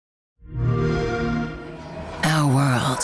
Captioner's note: Xbox sound